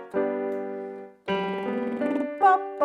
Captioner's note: slow piano music; lip trilling